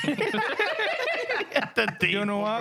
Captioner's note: laughing